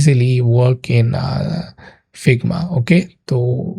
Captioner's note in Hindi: नाक से की जाने वाली आवाज़